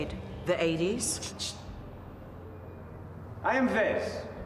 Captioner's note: shushes